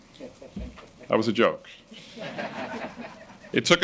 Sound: audience laughing

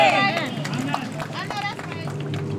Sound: clapping

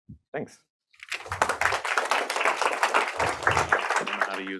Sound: applause

